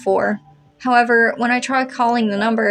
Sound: none

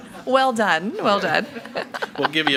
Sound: laughs

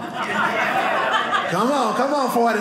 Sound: audience laughing

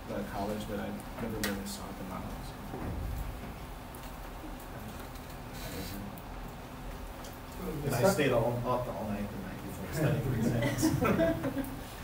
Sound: laughs

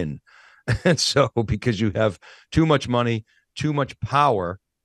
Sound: laughs

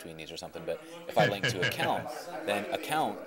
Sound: chuckling

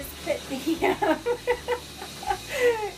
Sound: laughs

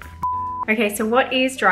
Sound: beep

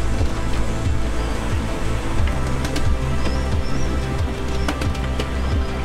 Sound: driving music; sail rattling; swell washing

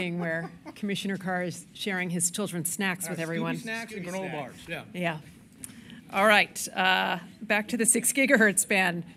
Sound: laughter

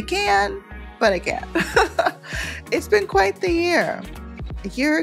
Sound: laughs

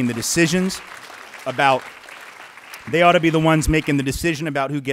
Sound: applause

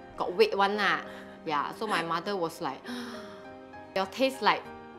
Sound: gasp

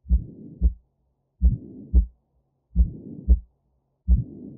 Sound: heartbeat sounds

